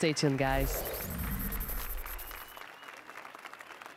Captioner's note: applause and cheers